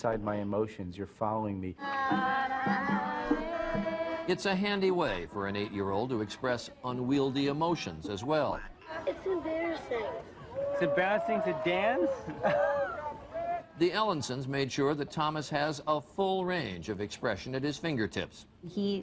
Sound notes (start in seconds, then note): 1.8 children singing; 4.6 voiceover; 8.6 voiceover; 12.0 laughing; 13.8 voiceover